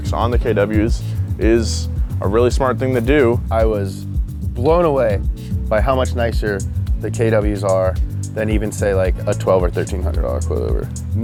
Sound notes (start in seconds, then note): none